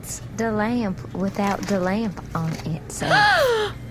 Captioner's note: gasps